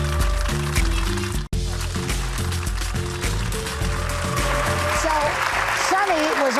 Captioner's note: cheers and applause